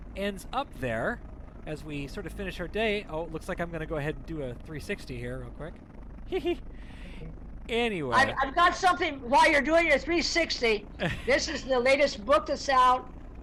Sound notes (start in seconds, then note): 6.3 laughs softly